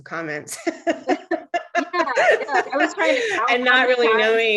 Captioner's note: laughs